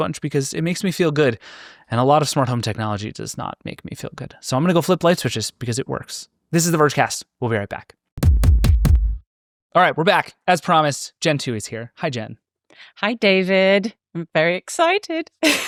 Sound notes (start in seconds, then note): 8.2 air thumping